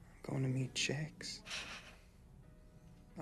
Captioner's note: laughs